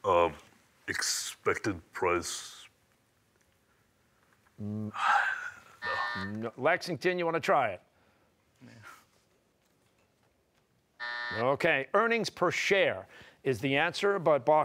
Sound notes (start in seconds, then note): 5.8 sighs, buzzer; 11.0 buzzer